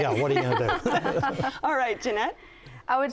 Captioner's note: everyone laughs